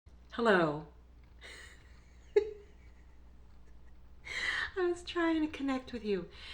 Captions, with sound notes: Hello. (Laughs) I was trying to connect with you.